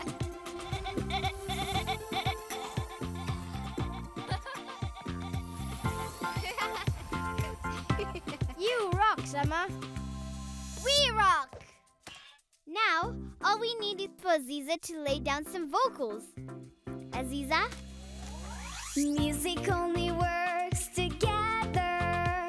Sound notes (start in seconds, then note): 0.2 upbeat music; 5.1 laughing